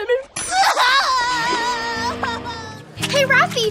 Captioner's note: distressed sobbing